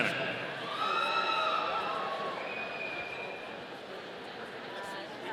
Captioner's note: audience cheering